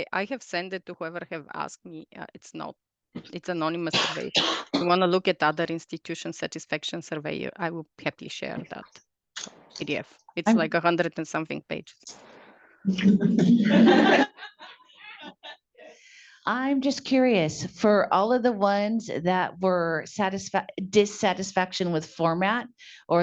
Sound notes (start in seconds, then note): 16.5 all laugh